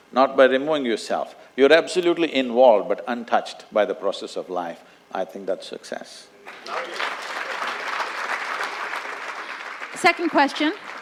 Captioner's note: applause